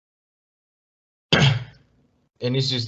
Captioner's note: cough